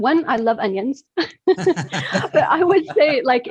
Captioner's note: all laugh